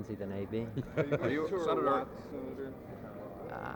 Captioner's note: reporters laugh. Reporters talking over one another